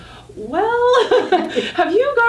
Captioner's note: laughing